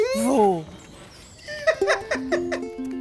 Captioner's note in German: lacht